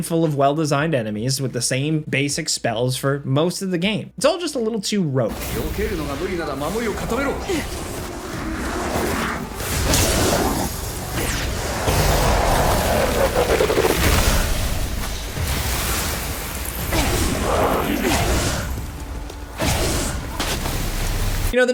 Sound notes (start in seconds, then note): 6.1 speaking foreign language; 9.0 enemy grunting